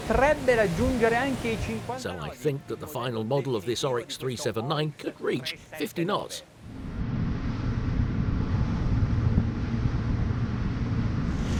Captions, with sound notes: So I think that the final model of this Oryx 379 could reach 50 knots. (engine humming)